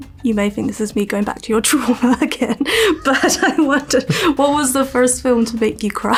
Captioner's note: laughing